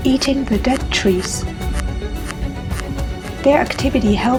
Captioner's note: sound of gnawing